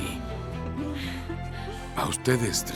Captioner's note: Caridad y Faith ríen